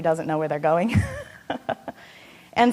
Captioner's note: laughing